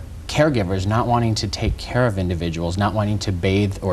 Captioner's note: none